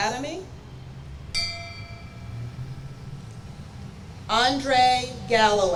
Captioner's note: bell rings